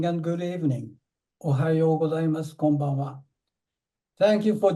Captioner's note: speaking japanese